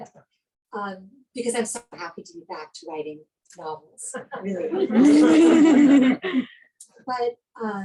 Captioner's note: laughing